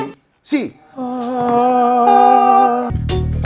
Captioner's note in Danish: Hellig lyd